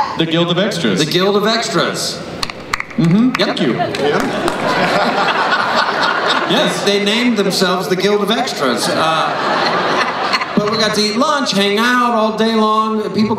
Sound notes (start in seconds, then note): 3.8 laughter